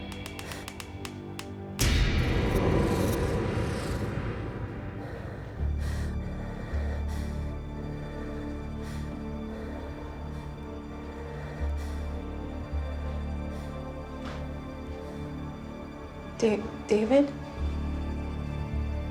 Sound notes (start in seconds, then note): 0.0 floorboards creaking; 0.1 intense music; 7.1 heavy breathing